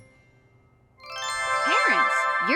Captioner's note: crystal chimes